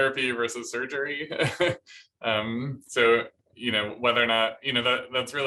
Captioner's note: laughter